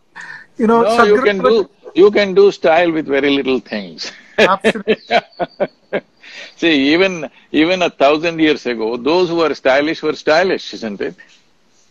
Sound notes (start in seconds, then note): 4.0 laughs